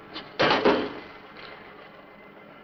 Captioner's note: thud